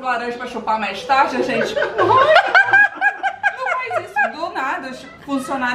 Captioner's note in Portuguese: risos